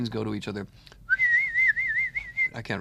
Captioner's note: whistling coupling device sounds